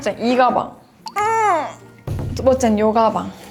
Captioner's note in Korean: 끙차